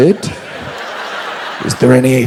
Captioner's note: audience laughs